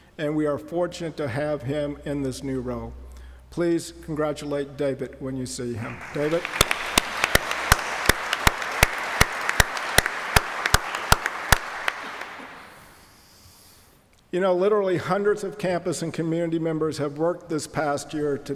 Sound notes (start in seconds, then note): 5.8 applause